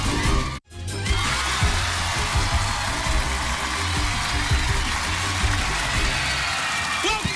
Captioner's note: cheers and applause